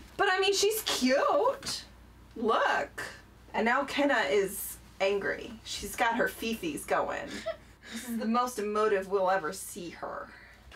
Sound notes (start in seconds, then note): 7.2 giggling